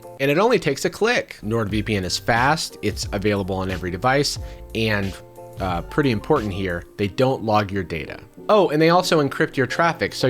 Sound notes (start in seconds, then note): none